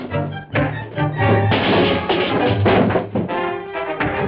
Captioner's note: punch thuds; cans clattering; punch thuds